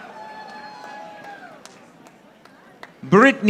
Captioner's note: audience applauding